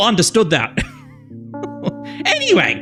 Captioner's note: laughs